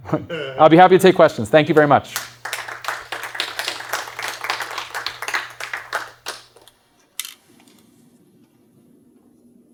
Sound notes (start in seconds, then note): 1.7 applause